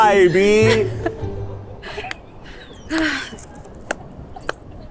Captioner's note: laugh